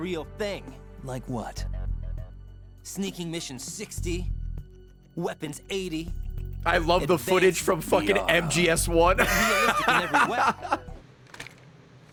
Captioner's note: laughs